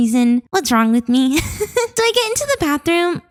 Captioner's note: laughs